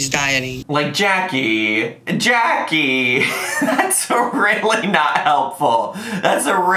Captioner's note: laughs